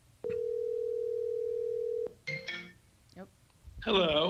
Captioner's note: phone rings